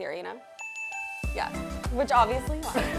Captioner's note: bell dings